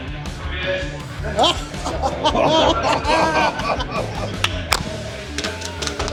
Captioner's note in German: Fröhliche Teamchef-Geräusche